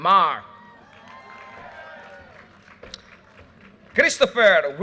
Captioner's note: audience cheers and applause